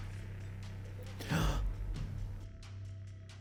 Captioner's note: gasps